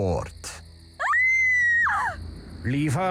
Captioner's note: screaming